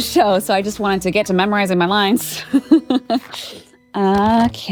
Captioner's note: laughs